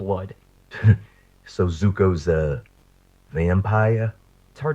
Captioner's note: scoffing